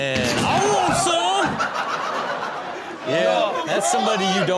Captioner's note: door crashing; audience laughing